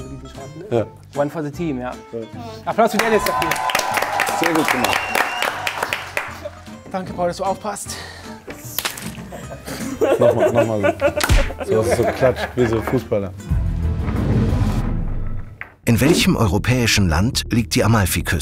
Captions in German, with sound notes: Ja. - One for the team, ja. Applaus für Dennis dafür. Sehr gut gemacht. Danke, Paul, dass du aufpasst. (Lachen) Noch mal, noch mal. So, dass es so geklatscht wie so ein Fußballer. (Spannungsvolle Musik)